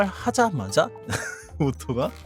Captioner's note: chuckle